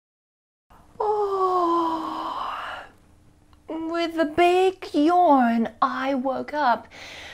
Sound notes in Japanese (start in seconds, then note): 0.9 あくび